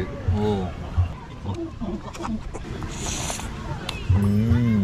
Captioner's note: slurps